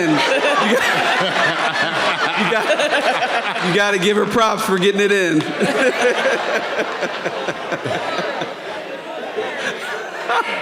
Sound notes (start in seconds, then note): 0.2 people laughing; 5.6 people laughing and chatting